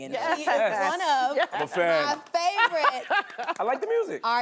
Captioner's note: laughing